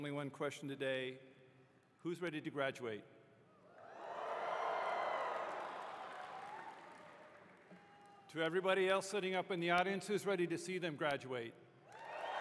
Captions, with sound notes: Only one question today, who is ready to graduate? [ Cheering ] To everybody else sitting up in the audience, who's ready to see them graduate?